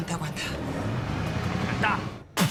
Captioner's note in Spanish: Ruido del vehículo